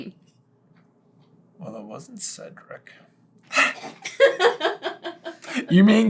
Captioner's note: laughter